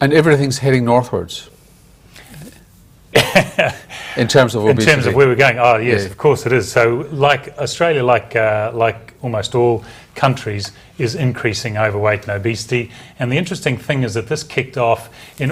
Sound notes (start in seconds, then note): 3.1 laughs